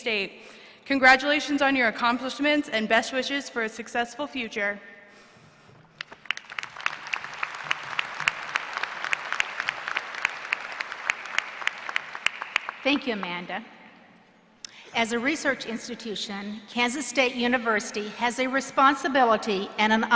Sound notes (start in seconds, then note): 5.9 applause